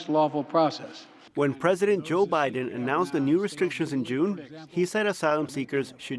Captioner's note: voice-over